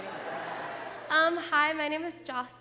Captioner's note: laughing